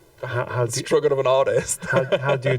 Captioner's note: chuckles